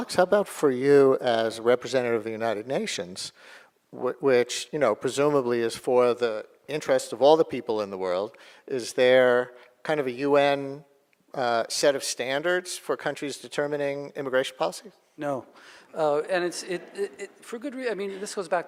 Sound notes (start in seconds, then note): none